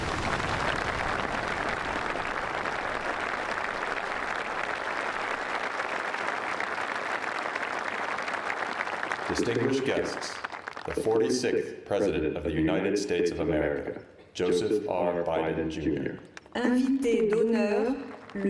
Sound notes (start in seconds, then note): 6.4 applause